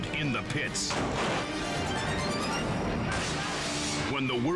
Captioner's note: body thuds